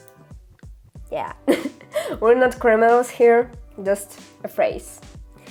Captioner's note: laughter